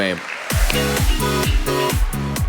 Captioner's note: audience applauding; upbeat music